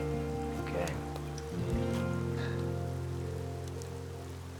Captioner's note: chuckles